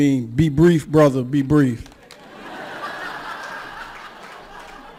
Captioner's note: laughter